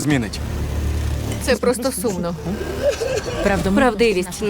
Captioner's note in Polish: płaczą